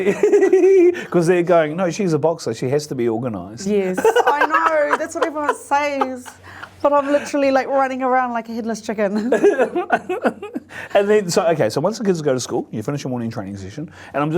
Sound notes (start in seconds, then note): 9.2 laughs